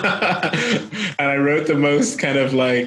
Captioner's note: laughing